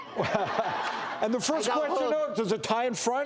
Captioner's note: laughter